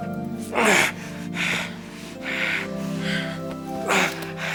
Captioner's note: heavy breathing